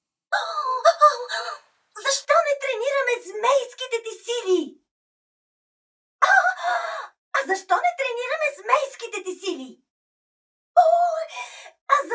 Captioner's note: gasps